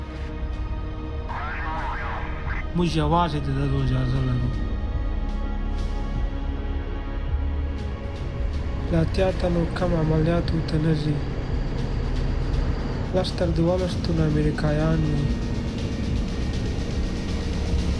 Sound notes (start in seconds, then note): 2.6 speaking foreign language; 8.9 speaking foreign language; 15.2 dramatic music